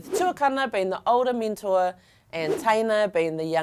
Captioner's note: air whooshing; air whooshing